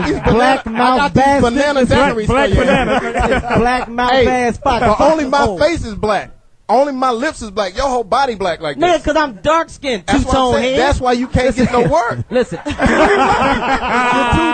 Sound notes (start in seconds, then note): 3.6 laughs; 12.6 all laugh